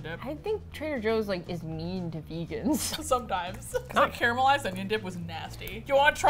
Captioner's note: both laugh